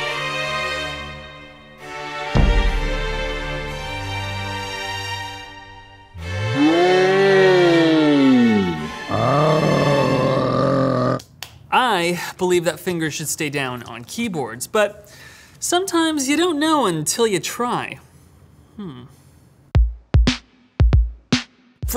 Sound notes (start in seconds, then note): 0.0 dramatic classical music; 11.3 slapping; 19.9 upbeat music